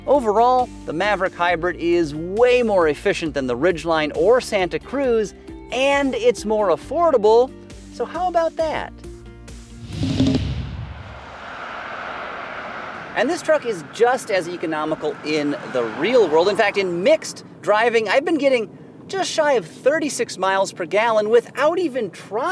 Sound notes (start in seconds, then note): 9.7 car whooshing; 9.9 upbeat music